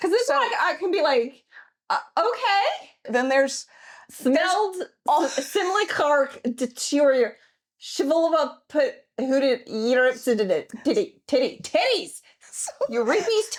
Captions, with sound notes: Because this one I can be like, okay. (speaking in gibberish) Titties, Yreep's Titties.